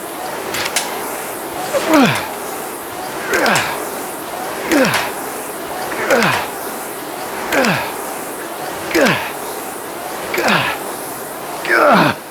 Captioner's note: grunting